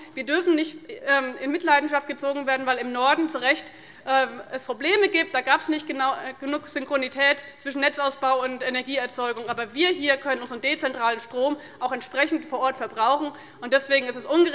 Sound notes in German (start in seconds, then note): none